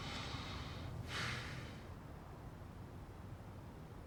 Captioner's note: man sighing